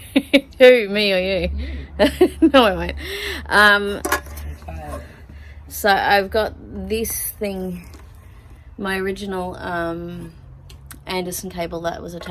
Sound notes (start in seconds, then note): 1.4 laughing; 1.4 laughs; 4.0 metal clattering